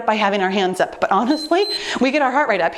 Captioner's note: timer beeps